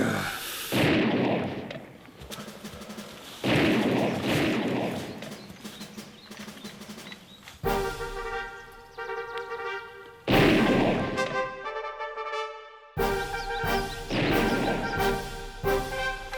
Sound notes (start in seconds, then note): 0.7 gunshot bangs; 3.7 gunshots bang; 7.6 fast-paced orchestral music; 10.2 gunshot bangs